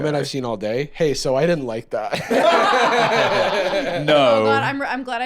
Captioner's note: all laughing